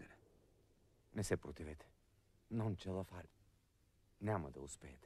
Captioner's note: in Italian